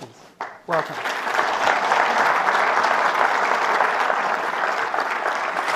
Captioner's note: audience applauds